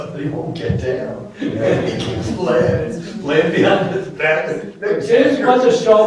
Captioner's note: laughter